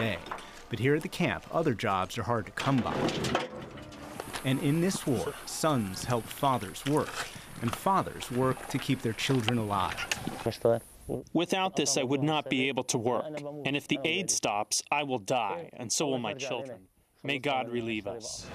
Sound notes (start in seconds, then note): 11.0 through translator